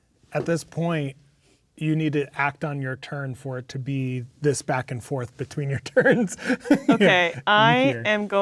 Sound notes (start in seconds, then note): 5.9 laughing